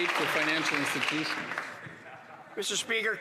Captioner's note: some Applause